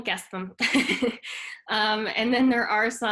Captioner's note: chuckles